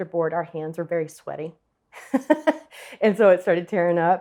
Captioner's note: chuckles